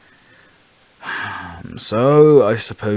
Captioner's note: sigh